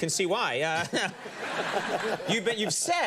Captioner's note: audience laughs